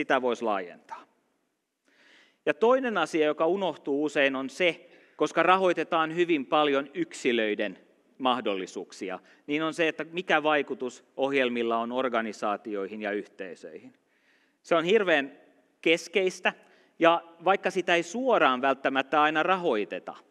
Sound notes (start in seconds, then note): none